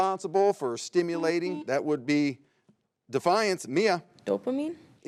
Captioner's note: buzzer beeps